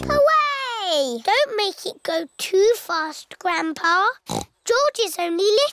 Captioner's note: snorts